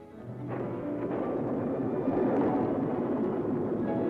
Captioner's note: thunder rumbling